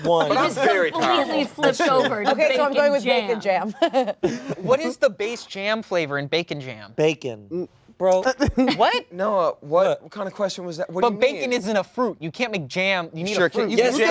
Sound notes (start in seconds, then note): 3.6 laughter